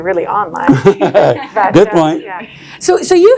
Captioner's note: laughs